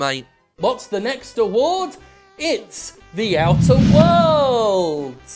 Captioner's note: whoosh